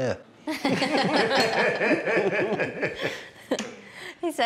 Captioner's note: everybody laughs